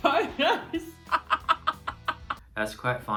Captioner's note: laughs